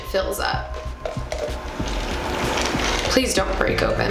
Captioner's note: pouring